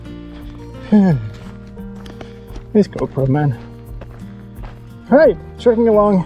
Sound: sighs

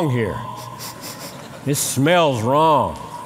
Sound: sniffing

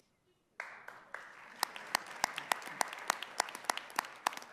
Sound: audience applauding

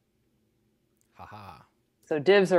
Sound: laughs playfully

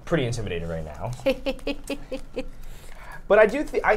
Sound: chuckles

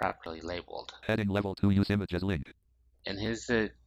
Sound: screen reader voice

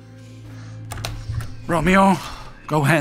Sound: door opening

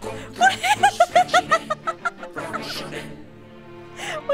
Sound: laughing

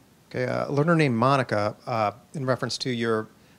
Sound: voiceover

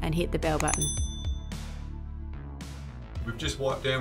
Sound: bell dings

